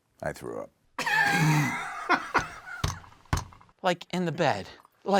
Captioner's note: all laugh